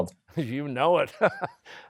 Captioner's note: chuckling